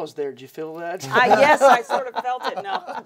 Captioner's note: laughing